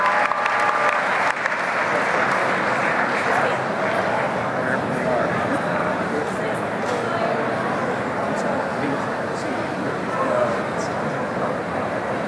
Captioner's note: applause and cheering; background chatter